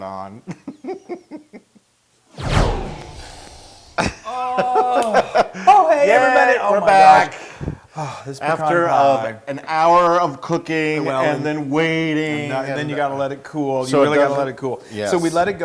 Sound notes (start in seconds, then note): 4.2 laugh